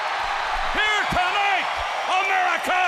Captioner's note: crowd cheering